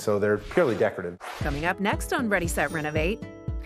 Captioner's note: swooshing sound